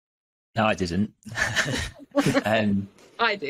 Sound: laughs

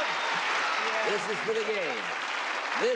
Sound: applauding

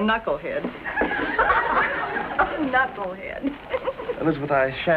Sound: laughs

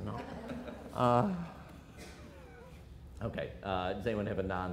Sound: audience laughter

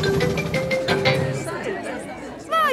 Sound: all murmuring

